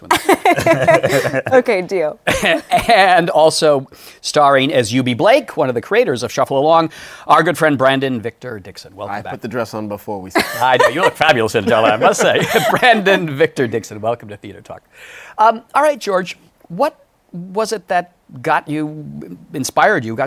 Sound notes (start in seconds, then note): 0.1 laughter; 3.0 laughs